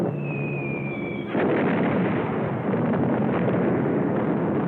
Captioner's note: explosions